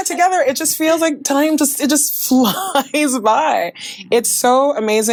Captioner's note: chuckles